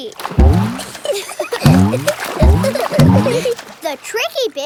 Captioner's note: giggling